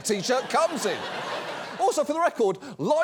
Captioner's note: studio audience laughs